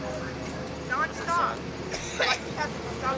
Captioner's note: coughs